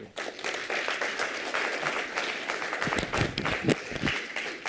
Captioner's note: applause